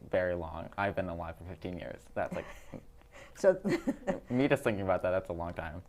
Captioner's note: both laugh